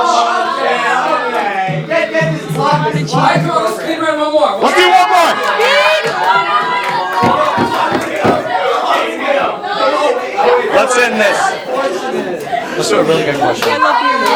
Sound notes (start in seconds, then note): 0.0 everyone oohing and talks; 5.7 cheering and hype; 11.7 talking